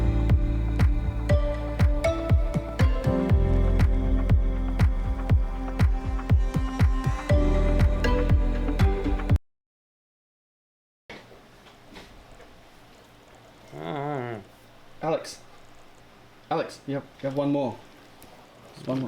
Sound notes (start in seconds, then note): 13.7 muffled groan